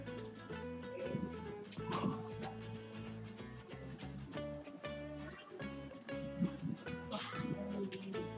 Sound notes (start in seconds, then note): 4.3 clapping